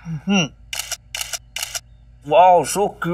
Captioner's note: Camera shutter clicks